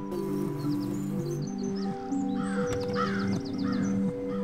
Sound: birds caw

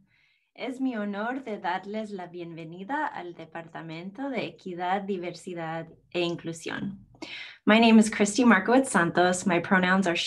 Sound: speaking spanish

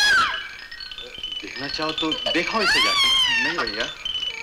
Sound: baby crying

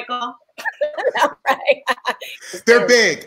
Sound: all laughing

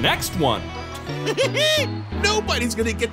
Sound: giggling

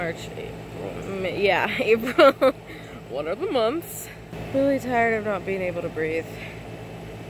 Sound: laughs

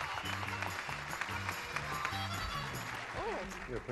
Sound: audience applauding

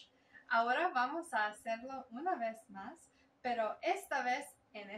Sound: speaking Spanish

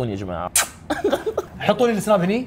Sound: kiss, laughs

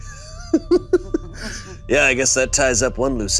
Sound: laughing

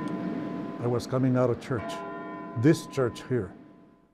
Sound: church Bells

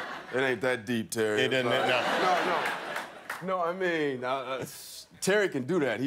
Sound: laughter; laughter

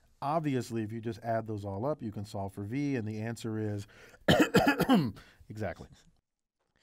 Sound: cough

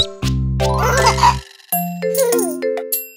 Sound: chuckles; playful music

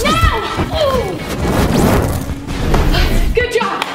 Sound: grunt

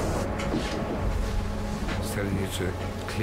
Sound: brooding music continues; wind howling

